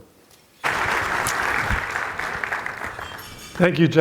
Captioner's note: audience applauds